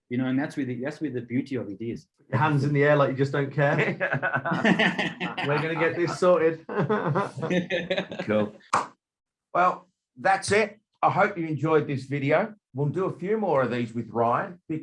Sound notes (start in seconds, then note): 3.6 laughing